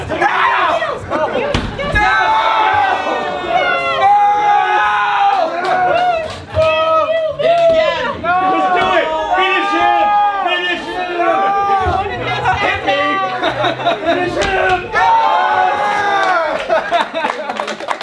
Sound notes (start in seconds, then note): 2.5 crowd cheering; 16.1 crowd cheering